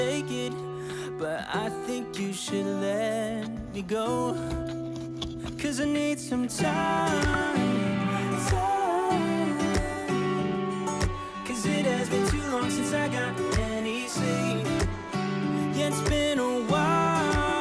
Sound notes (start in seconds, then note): 14.7 steps